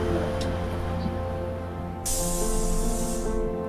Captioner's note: bus door opens and shuts